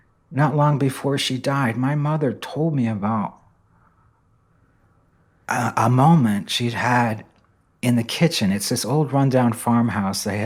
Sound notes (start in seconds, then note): none